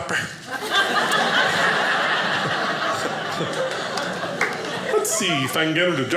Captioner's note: audience laughing